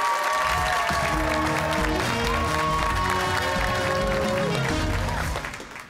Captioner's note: cheers and applause